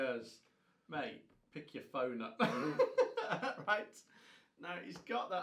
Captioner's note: both men laughing